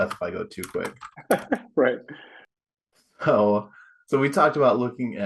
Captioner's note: chuckles